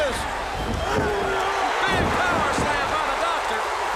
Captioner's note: crowd cheering